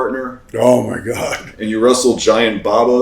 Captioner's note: chuckles